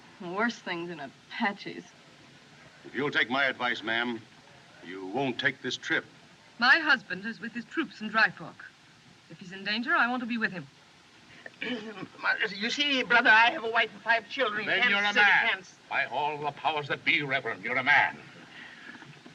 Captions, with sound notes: There are worse things than Apaches. If you'll take my advice, ma'am, you won't take this trip. My husband is with his troops in Dry Fork. If he's in danger, I want to be with him. [Clears Throat] You see, brother, I have a wife and five children in Kansas City. Then you're a man. By all the powers that be, Reverend, you're a man.